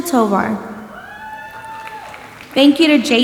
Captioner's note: audience applauding and cheering